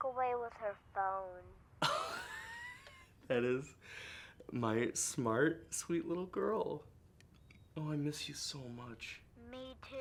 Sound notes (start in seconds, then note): 4.3 laughs